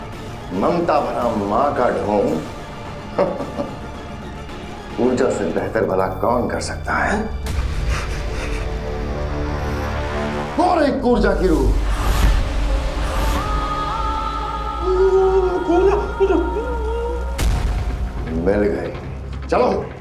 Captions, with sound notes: she will pretend to care like a mother. [laughter] No one can do this job better than Urja! [tense music plays] That's Urja's soul! [tense music plays] Ur... Urja! I found her. Let's go!